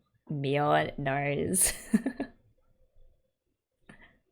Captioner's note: laughs